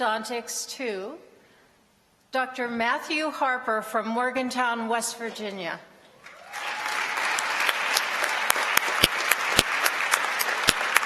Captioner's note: applause